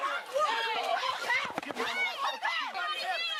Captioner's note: screaming